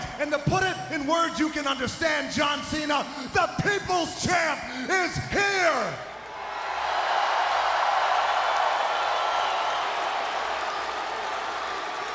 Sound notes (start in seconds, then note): 5.8 crowd cheering